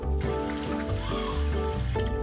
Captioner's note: baby crying